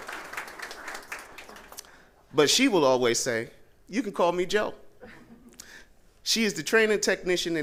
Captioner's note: applause